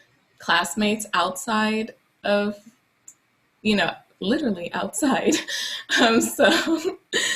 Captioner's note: laughs lightly